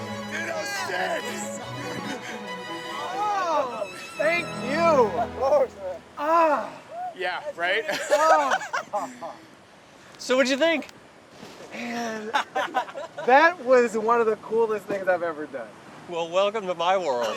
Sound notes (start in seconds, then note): 6.2 sighing loudly